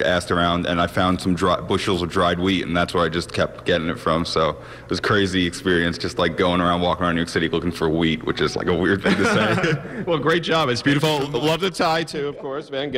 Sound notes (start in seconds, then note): 9.0 both laughing